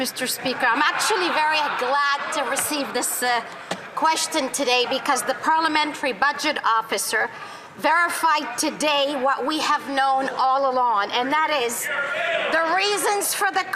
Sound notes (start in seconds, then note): 2.3 some Applause